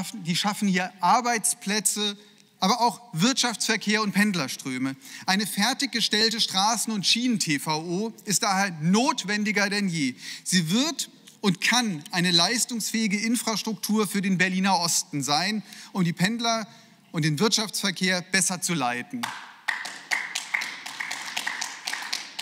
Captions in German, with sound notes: Die schaffen Arbeitsplätze, aber auch Wirtschaftsverkehr und Pendlers. Eine fertig gestellte Straßen- und Schienen TVO ist notwendiger denn je. Sie wird und kann eine leistungsfähige Infrastruktur für den Berliner Osten sein und die Pendler und den Wirtschaftsverkehr besser zu zu leiten.(Beifall)